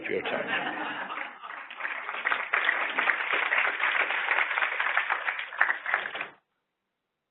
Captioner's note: applause